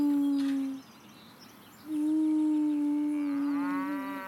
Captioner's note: cow mooing